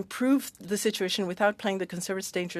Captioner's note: speaking French